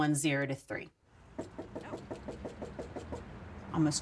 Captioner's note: knocks on door